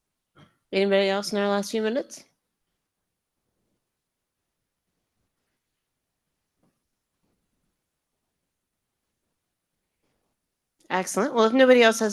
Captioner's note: silence